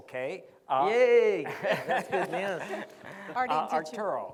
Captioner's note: laughs